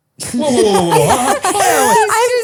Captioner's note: laugh